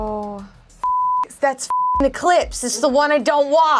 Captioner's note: beep